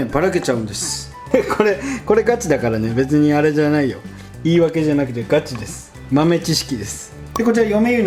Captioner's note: haha